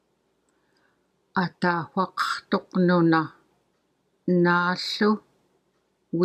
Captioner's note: in Yup'ik